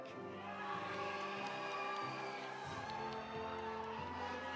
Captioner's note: audience applauding; audience cheering